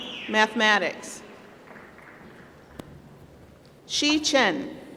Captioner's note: applause